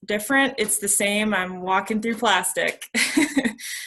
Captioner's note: chuckles